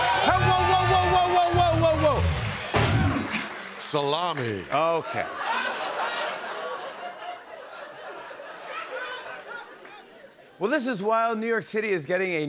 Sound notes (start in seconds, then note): 5.0 laughter